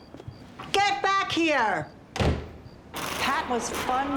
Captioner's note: door slams